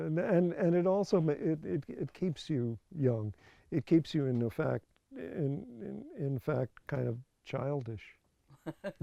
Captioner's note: laughs